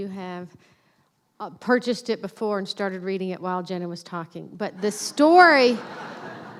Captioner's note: laughter